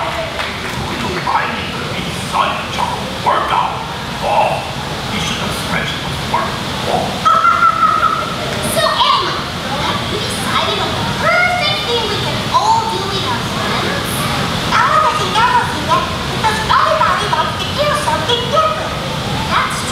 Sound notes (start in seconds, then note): 6.9 laughs